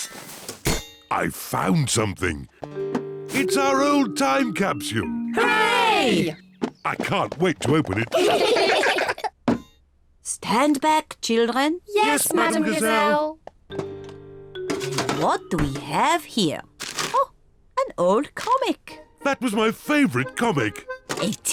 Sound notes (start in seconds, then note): 7.8 all giggle